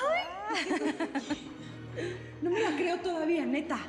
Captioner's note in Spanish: risas